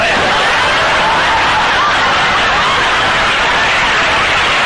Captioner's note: audience laughter; audience applause